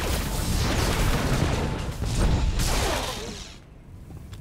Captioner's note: gunshots